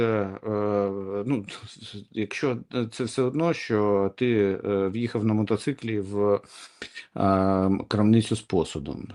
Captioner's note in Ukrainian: сопіння